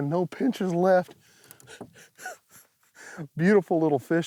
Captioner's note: laughs